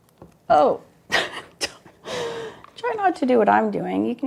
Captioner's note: laughs